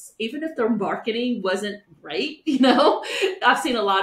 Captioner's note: chuckles